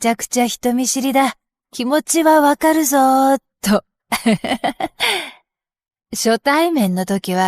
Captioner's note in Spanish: risas